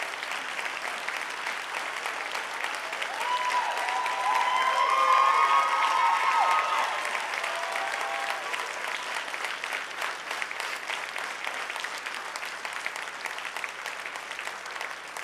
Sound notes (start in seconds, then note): 4.0 clapping; 7.3 cheering